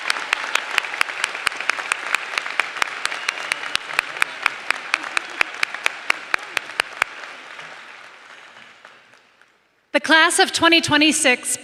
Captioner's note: applause